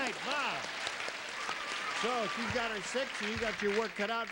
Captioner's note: audience applauds